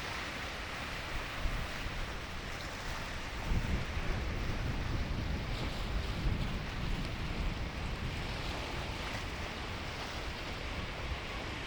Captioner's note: water rushing